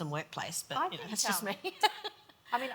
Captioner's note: laughs